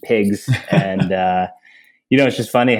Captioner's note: laughs